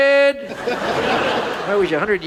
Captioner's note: audience laughs